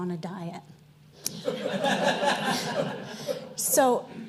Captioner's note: audience laughing